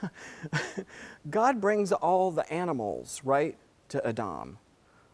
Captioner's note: laugh